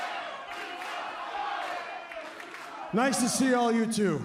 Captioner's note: fans chanting